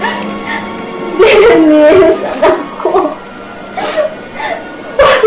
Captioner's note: crying